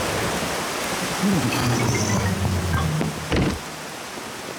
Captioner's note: grunts